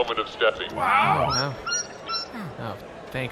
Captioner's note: Little Inch squeaks